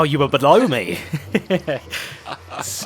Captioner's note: laughs